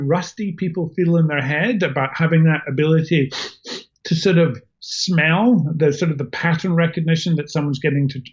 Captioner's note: sniffs